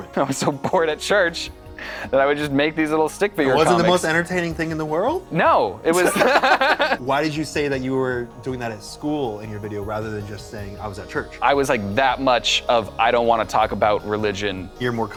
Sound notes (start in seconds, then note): 5.9 laughs